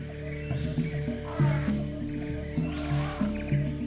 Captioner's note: elephant trumpets